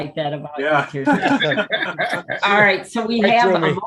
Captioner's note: all laughing